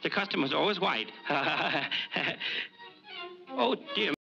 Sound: laughs nervously

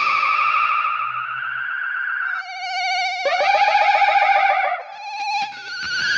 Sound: heavily distorted echo

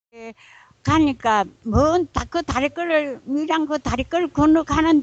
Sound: speaking in foreign language

